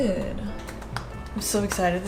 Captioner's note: clapping